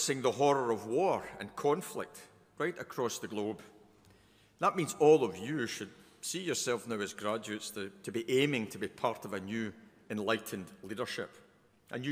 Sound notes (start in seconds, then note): none